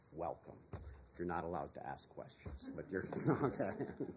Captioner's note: laughter